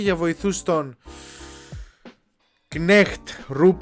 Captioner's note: deep breath